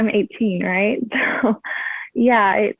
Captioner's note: chuckles